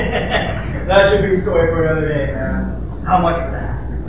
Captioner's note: laughs